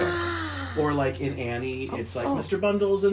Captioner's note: gasps